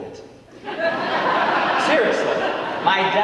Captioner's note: audience laughing